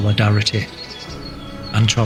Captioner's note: birds chirping